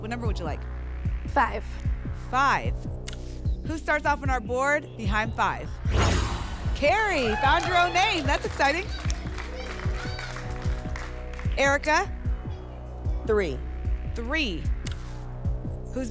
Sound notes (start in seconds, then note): 5.8 whoosh; 9.1 applause and cheering